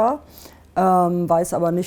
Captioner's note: exhales